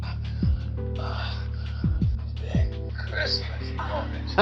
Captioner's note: moaning; laughs